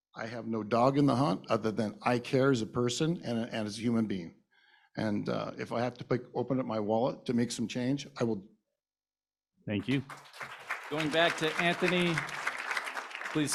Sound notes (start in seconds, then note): 9.8 applause